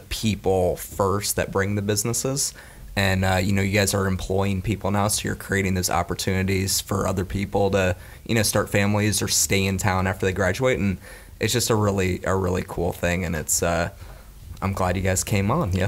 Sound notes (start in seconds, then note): none